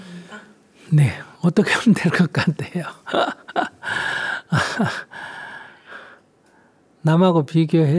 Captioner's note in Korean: 웃음